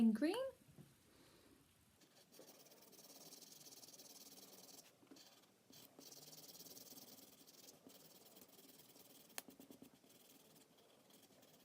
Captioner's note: scribbling